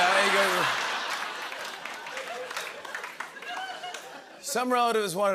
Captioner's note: laughter